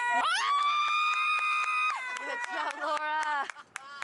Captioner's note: more screaming; sobbing